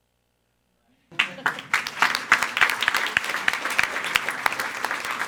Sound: everyone applauding

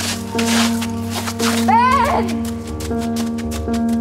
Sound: Catja shouting after Ben

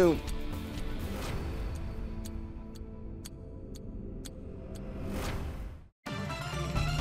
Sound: clock ticking; dramatic music; upbeat electronic music

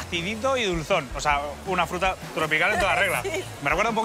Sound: laughs

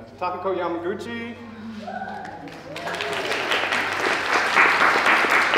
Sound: applause

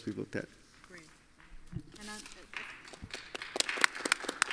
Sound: audience applauds

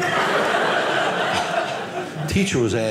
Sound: audience laughing

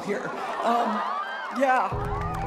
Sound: cheering

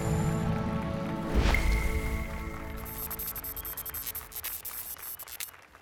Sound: applause and cheers

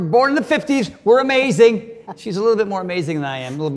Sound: Cynthia chuckles

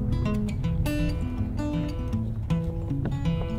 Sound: ropes tapping

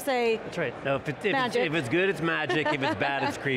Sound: laughing

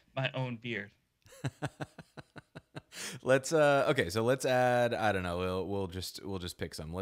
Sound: laughing

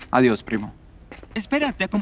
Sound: footsteps

